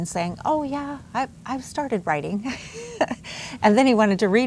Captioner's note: laughs